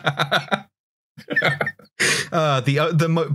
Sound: laughter

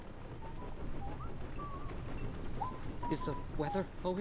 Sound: whistling

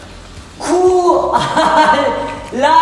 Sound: silly laugh

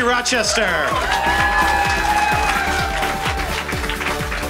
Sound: applause

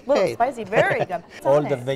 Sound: laughter

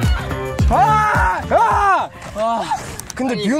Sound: roar of joy

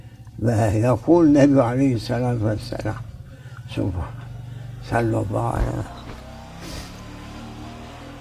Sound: saws

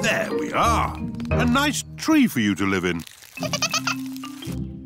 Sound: giggling

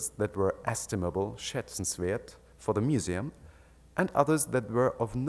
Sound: speaks in German

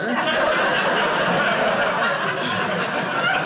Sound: audience laughing

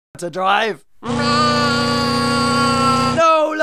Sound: screaming

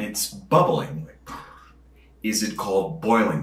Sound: breath blowing

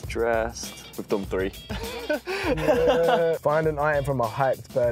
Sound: laugh

